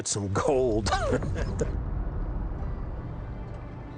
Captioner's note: chuckles